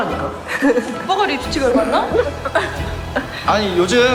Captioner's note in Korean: 황당해하며